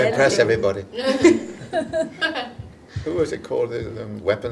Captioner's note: audience laughing